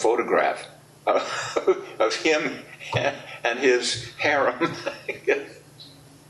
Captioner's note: laughs